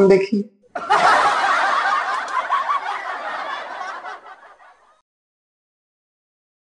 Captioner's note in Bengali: সশব্দ হাসি